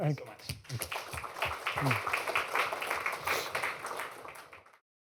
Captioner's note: applause